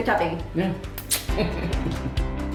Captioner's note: smooches